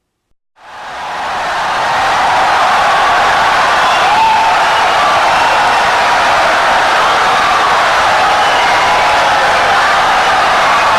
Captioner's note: wild applause and cheering for 17 seconds